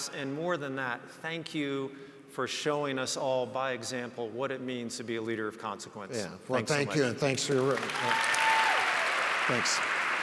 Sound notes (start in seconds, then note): 7.3 audience cheers and applauds